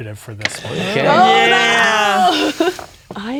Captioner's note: players exclaiming